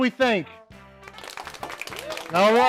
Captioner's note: clapping